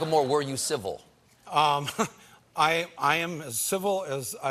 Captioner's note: laughter